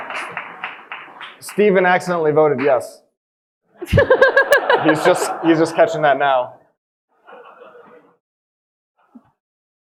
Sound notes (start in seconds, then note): 0.0 audience applauding; 3.8 all laughing